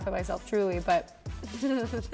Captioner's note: laughing